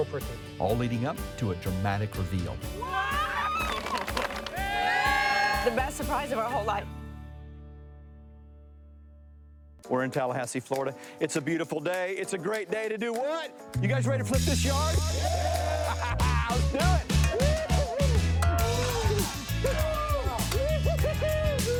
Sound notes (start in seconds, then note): 2.8 people applauding; 15.1 people applauding; 16.6 shovels clanging